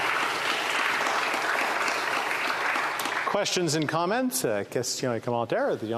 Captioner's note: applause